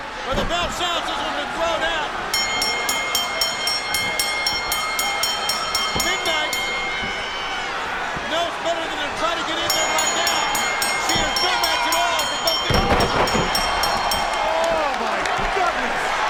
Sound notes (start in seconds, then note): 2.3 bell ringing; 10.6 bell ringing